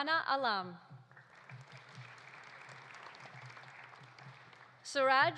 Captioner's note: audience applauding